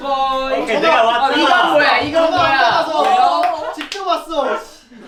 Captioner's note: bangs on desk